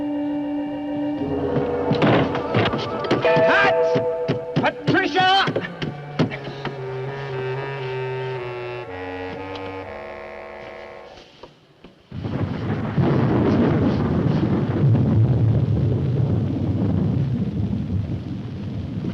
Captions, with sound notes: (pounding) Pat! Patricia! (Rumbling thunder)